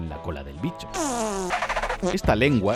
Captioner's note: farting alien